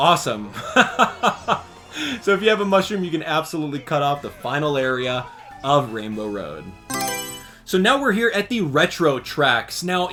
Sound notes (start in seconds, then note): 0.6 laughs; 6.8 Mario Selection Sound